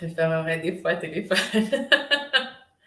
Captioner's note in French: rire